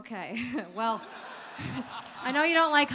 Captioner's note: audience laughter